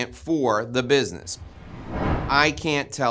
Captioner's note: air whooshing